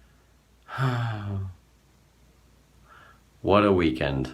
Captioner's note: sighs